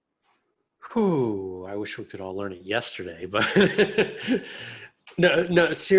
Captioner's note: laughs